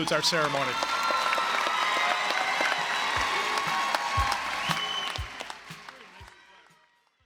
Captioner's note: applause, cheering